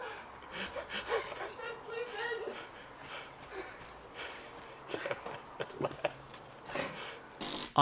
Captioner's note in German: lacht